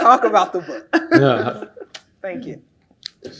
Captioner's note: laugh